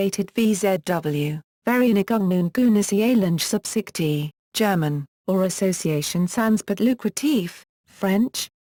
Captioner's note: German